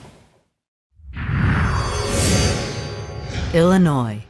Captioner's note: sound effect